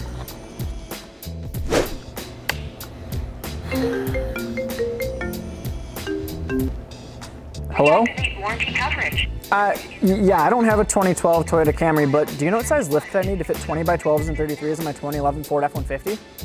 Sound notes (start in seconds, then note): 1.6 whoosh; 3.8 phone rings